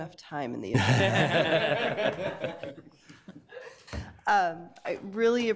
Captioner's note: committee members laugh